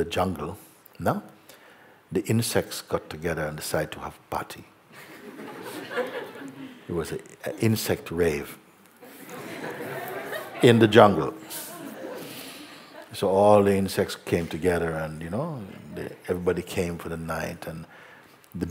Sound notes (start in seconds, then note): 4.9 laughter; 12.0 laughter